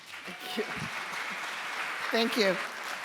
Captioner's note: audience applauds